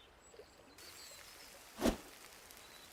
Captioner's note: sizzling